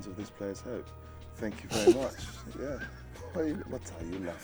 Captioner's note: laughs